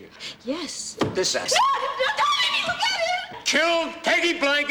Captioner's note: screaming